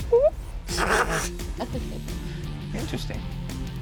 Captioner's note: laughs; quacks